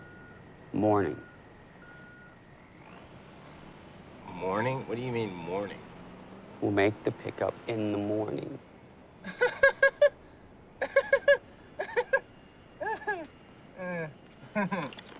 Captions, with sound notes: - Morning. - Morning? What do you mean, morning? - We'll make the pick-up in the morning. (laughs)